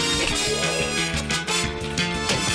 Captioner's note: gasps; blubbers lips; keys clack; clunk!